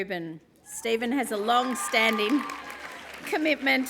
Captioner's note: applause